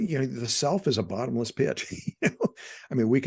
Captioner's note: laughing